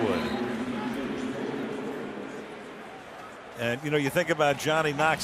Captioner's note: pa announcement